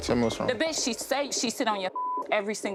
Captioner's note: beep